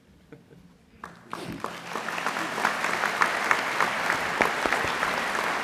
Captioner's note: laughter; applause